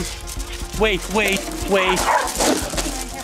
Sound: barks

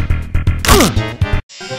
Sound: head cracks

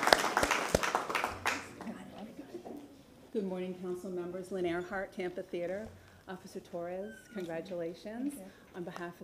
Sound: applause

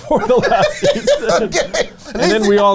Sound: laughs

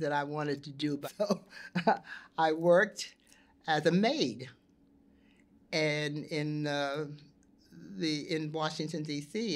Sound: chuckles

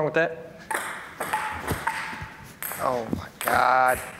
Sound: ping-pong ball clanging

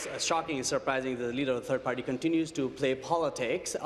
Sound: applause

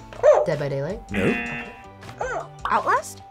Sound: buzzer; buzzer barks

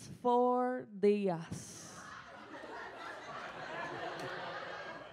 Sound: speaks in foreign language; audience laughs

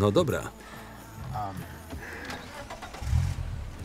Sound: starts car

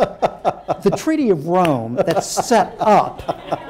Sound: laughter

